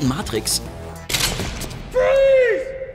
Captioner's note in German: Durchladen, Schrei